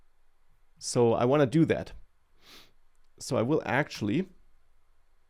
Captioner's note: sniffs